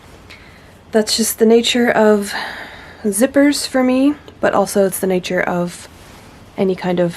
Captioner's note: sighs and gasps